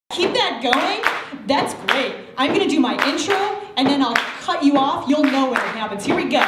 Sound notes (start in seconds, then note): 0.2 audience claps and stomps to a beat